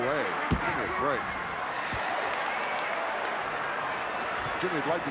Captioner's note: crowd yelling